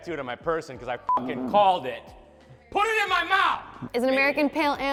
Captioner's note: beep